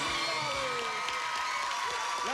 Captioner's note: cheers and applause